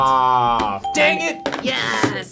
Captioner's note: ping